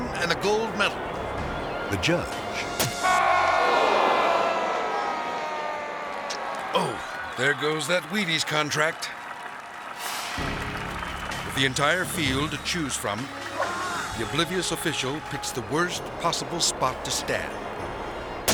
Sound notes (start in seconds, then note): 3.0 audience exclaiming; 3.1 judge yelling